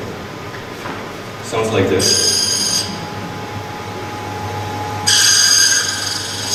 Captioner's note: metal screeching